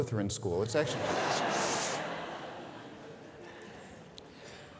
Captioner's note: audience laughing